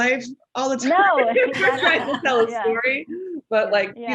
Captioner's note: panelists laughing